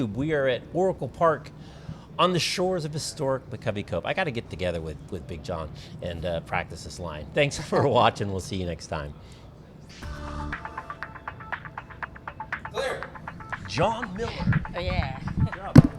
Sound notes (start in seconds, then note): 7.4 laughing; 10.0 upbeat music